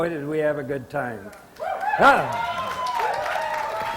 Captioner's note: audience applause